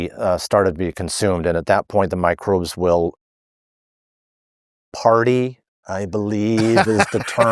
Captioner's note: laughing